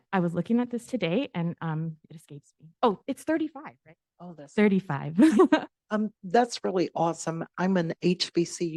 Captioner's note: giggle